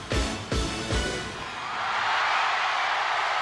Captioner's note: cheering